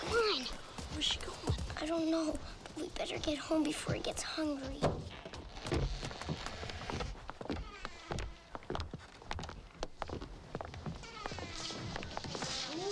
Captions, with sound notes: - Come on. - Where's she going? - I don't know. We better get home before he gets hungry. (door thumps) (hinges creak)